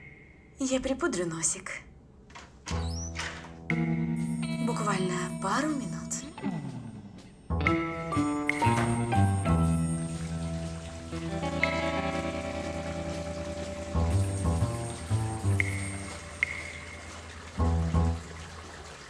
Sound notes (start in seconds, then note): 10.0 water running